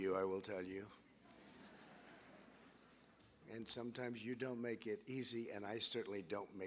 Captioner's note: laughter